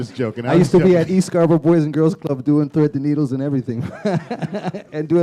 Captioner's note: chuckle